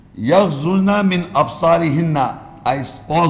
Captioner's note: Arabic